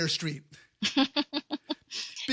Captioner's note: laugh